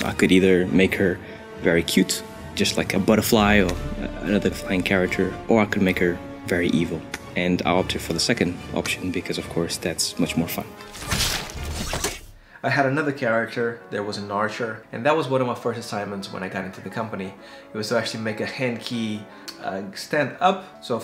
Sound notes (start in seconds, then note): 11.0 electronic zapping